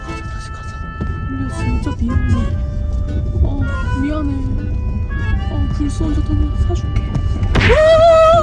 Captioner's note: car